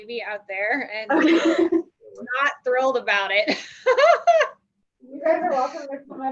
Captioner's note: laughs